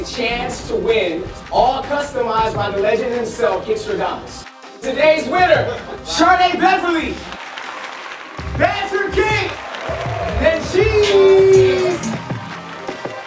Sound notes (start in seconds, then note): 6.9 clapping